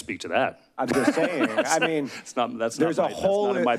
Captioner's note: laughs